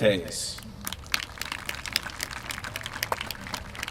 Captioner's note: applause